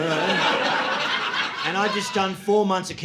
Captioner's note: audience laughing